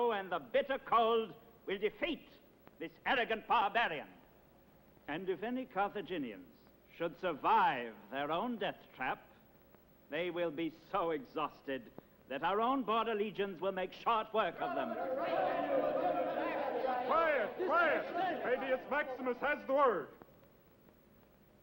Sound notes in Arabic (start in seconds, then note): 14.6 ثرثرة حيوية